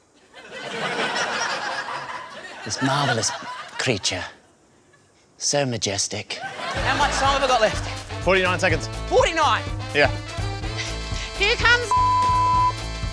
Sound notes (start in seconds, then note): 0.2 laughter; 2.5 english accent; 6.3 laughter